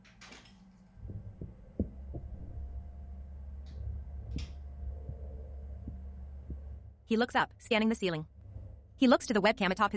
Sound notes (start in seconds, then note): 0.0 strange mechanical noises